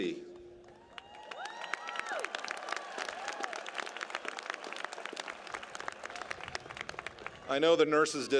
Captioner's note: applause